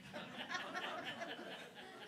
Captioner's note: laughter